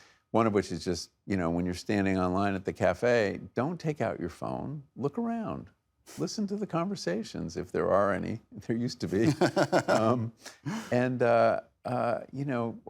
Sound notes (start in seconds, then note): 9.2 laughing